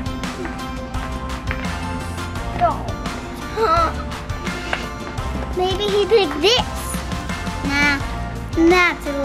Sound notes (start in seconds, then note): 3.8 gasps